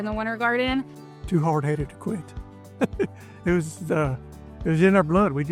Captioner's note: laughing